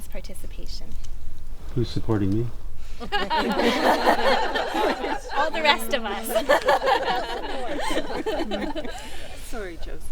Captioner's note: group laughing